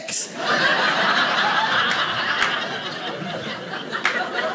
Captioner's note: audience laughing